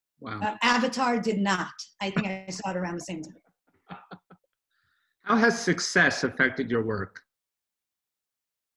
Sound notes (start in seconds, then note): 5.3 laughs